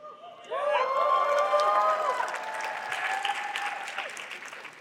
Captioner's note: cheering